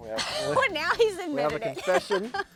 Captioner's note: laughs